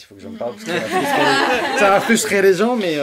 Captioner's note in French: rires